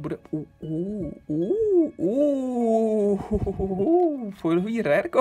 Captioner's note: hooohooo-ooooh-hoooo